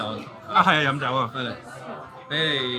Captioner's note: staff 2 speaking in foreign language; speaking in foreign language; staff 2 speaking in foreign language